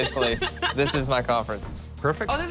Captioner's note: laughter